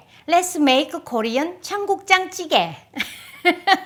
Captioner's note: laughs